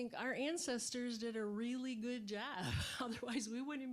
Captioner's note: laughing